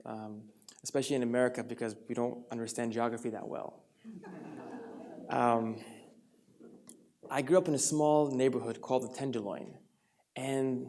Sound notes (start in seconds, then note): 4.1 audience laughs